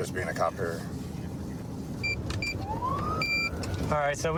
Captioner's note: buttons beeping